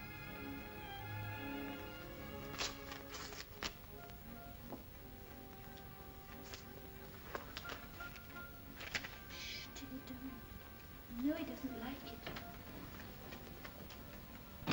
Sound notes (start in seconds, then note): 2.5 envelope tears; 14.4 door closes